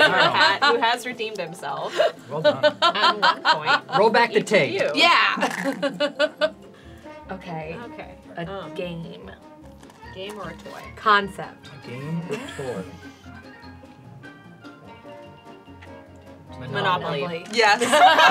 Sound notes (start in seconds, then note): 5.4 laughter